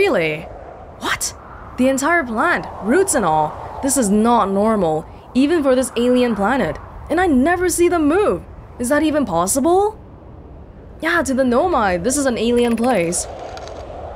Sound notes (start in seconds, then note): none